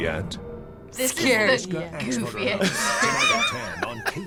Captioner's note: laughs